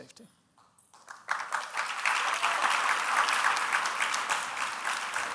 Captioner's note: audience applauding